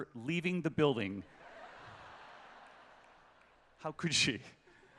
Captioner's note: laughter